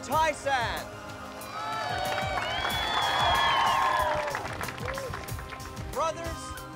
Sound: Chosen cheering and applauding

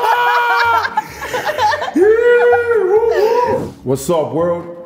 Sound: both laughing

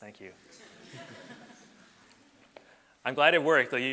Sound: audience laughs

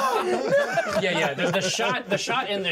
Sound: laughs

